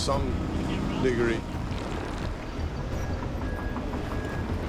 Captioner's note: machine running